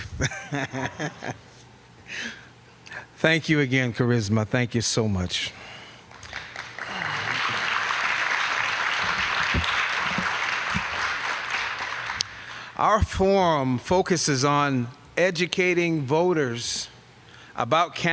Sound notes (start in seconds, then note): 0.0 laughter; 6.0 applause